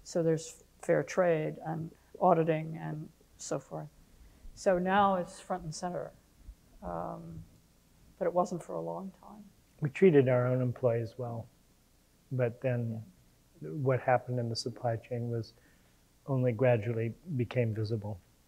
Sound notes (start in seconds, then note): none